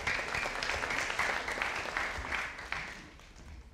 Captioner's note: audience applauding